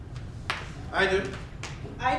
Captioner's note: snap